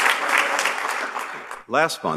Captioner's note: applause